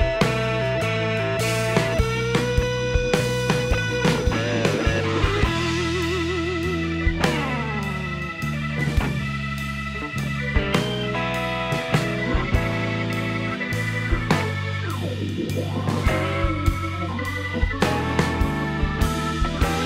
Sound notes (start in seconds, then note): 8.7 phone